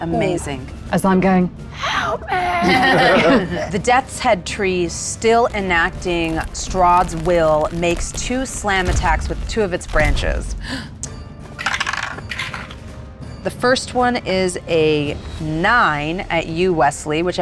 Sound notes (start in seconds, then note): 2.3 group laughs; 11.5 die rattles